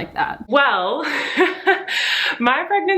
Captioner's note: chuckles